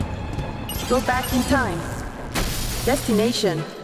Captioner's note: suspenseful music; robot voice